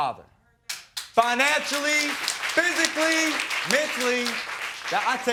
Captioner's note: crowd clapping